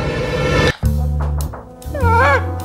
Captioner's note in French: toc toc toc